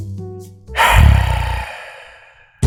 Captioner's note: sigh